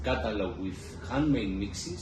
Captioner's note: none